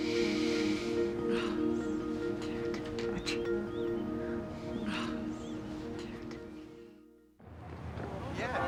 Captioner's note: sighs